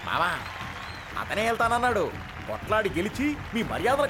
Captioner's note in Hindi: तालियाँ